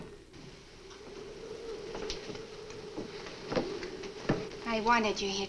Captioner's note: muffled wind howls